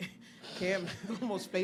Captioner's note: laughs